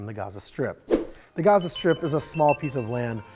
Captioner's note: air whooshes